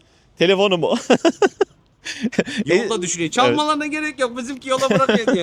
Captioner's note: laughs